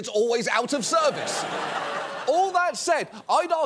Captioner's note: audience laughs